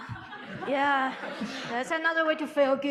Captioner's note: audience laughing